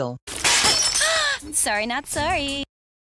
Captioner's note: giggles; singsong